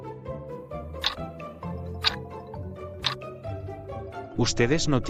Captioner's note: FX - Clock Tick